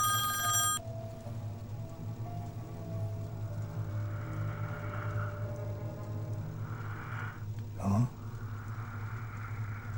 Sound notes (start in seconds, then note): 3.6 rigid breathing